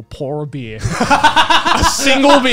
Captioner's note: laughing